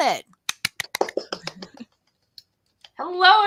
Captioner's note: applause